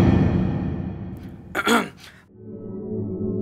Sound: clearing loud throat

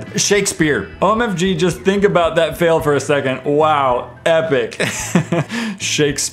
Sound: laughs

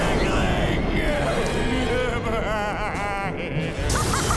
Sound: laughing

